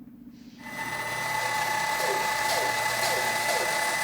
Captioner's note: saw buzzing